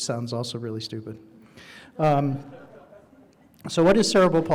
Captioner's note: audience laughing